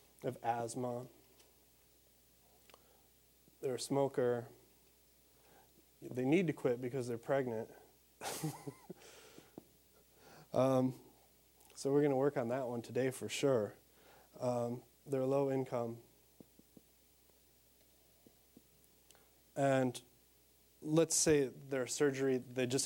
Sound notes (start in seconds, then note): 8.2 laughing